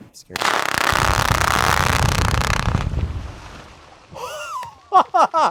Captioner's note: explosives rattling; ground rumbling; gasps and laughs